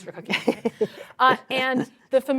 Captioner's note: laughter